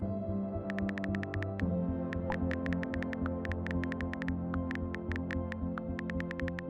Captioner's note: futuristic music; typing sounds